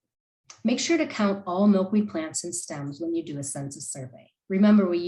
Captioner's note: click